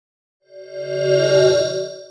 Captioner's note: swoosh